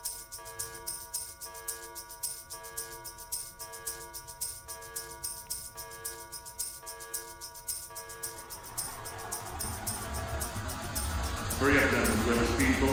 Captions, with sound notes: [suspenseful music] [alert] Hurry up gentleman,